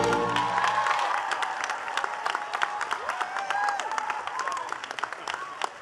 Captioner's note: attendees cheering and clapping